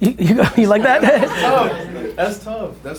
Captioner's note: group laughter